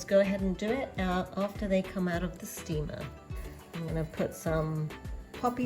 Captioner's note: boiler